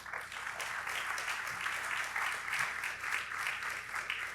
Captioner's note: audience applauding